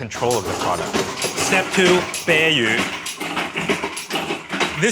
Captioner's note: speaking in foreign language